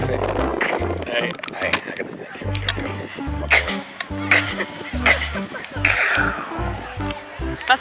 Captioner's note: Minecraft noises